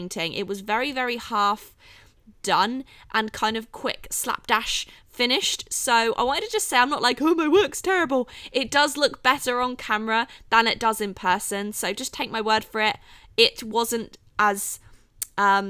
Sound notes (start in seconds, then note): none